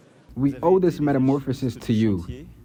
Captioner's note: through translator